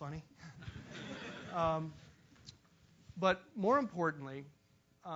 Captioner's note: laugh